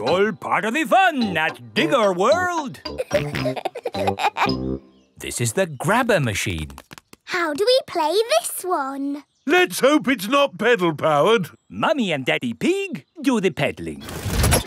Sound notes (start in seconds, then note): 2.8 peppa and george laughing